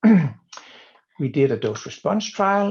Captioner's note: clearing throat